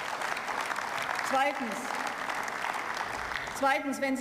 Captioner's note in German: Beifall